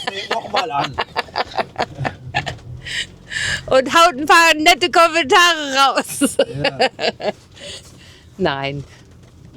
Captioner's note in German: japst; gelächter